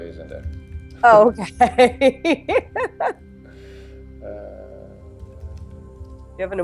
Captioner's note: laughs